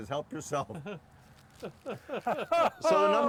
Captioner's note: laughing